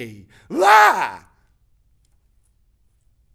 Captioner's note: exclaims